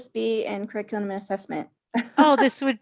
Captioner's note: laughs